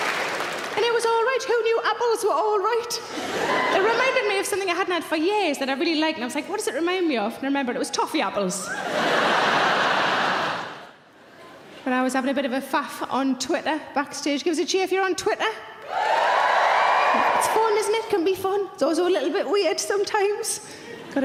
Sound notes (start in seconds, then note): 8.6 audience laughing; 15.8 audience cheering